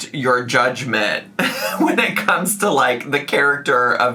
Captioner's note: laughs